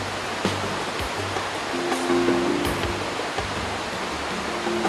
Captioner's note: descriptive music; sound of waterfalls